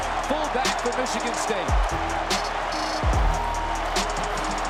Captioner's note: crowd cheering